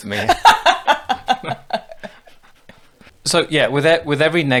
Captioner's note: laughing loudly